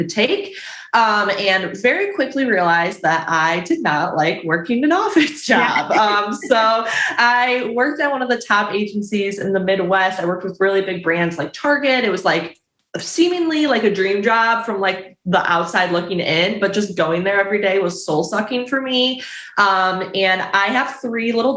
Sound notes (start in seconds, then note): 5.4 chuckles